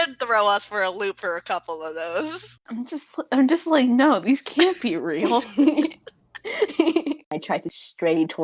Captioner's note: giggle